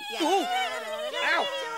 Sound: fleas laughing

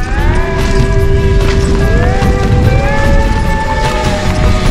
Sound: dirt crumbling

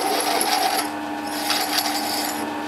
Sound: whirring

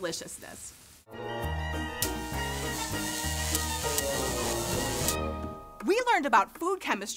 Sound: upbeat music; electricity buzzing

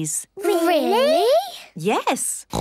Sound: snorts

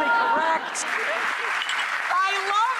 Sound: audience laughs; applause

